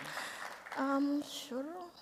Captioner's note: applause